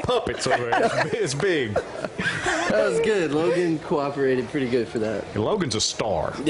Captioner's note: laughter